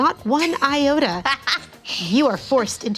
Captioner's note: laughing